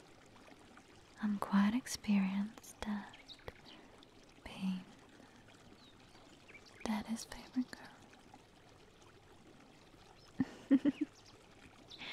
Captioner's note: chuckles